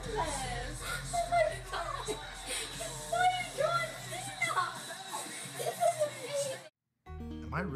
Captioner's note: laugh